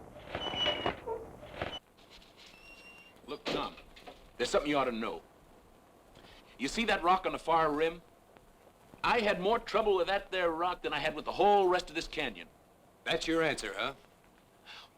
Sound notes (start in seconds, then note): none